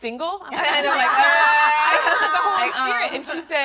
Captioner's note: laughing; crowd laughing drowns out speaker